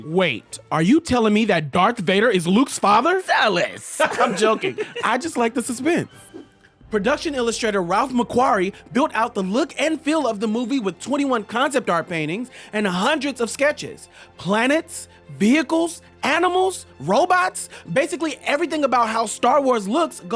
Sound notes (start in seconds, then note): 3.8 laughter